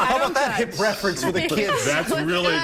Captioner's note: laughter